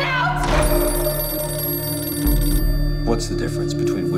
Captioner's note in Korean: 전화벨